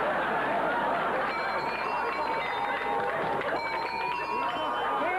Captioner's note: doorbell plays